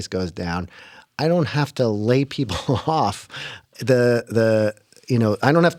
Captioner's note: laughter